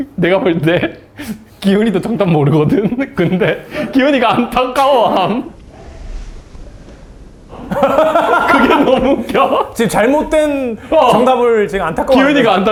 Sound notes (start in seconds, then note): 1.6 can't stop laughing